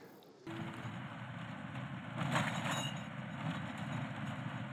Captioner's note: engine rumbles